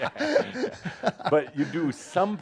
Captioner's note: they laugh